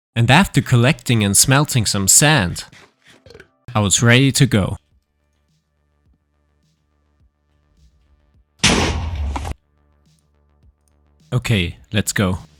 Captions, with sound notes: And after collecting and smelting some sand, I was ready to go. (explosion booming) Okay, let's go.